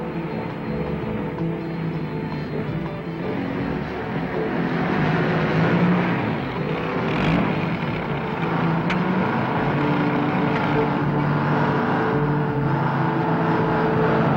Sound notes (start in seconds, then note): 0.2 truck engine whirring; 6.0 jeep whirring; 9.3 truck engine whirring